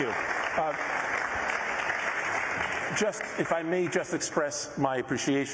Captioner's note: applause